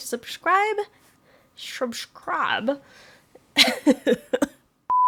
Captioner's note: weird accent: shubshcribe... bows head and laughs